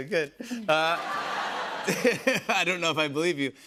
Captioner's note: laughter